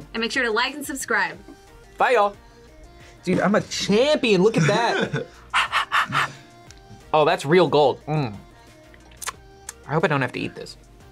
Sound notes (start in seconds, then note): 4.6 laughs; 5.2 exhales